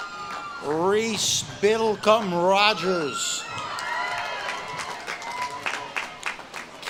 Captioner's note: audience claps and cheers